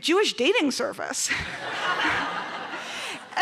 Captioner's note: laughter